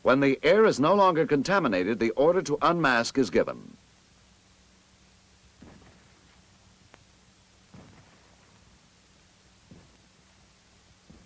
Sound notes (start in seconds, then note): none